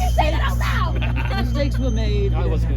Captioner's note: Monty chuckles in throwing Darcy under the carriage